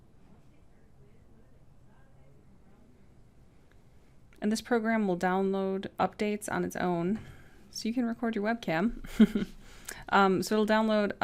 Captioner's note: laugh